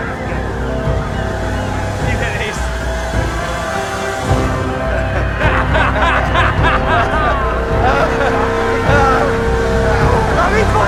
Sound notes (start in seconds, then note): 4.2 both laugh